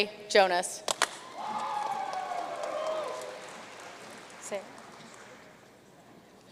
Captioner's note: audience cheering and applauding